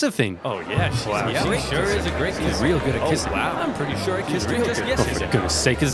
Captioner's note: crowd talks over each other